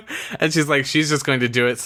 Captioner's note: laughs